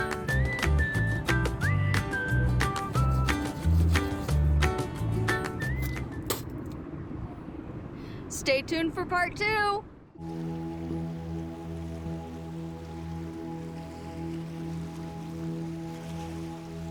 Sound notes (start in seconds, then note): 0.0 playful music; 2.9 Abby scrubs teeth; 4.8 playful music; 10.2 water flows; 10.2 peaceful music